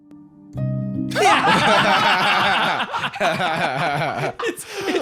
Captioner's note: all laughing